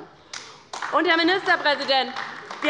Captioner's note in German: Beifall bei der LINKEN